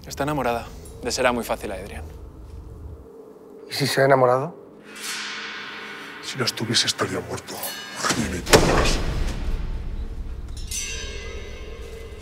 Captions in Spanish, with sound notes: Está enamorada. Le será muy fácil a Edrian. ¿Y si se ha enamorado? (VOZ MALVADA) Si lo estuviese, estaría muerto. ¡Gilipollas!